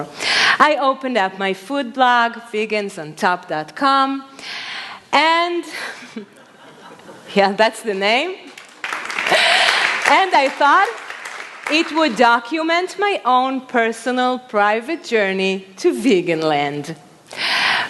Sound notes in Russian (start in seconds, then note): 5.8 Смех; 8.5 Аплодисменты